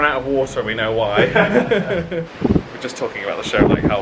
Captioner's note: they laugh